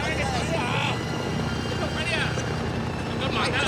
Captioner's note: speaking chinese